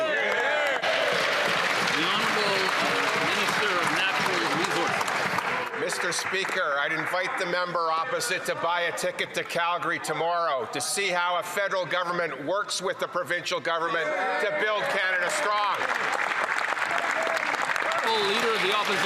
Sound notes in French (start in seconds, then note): 12.2 voix de l'interprète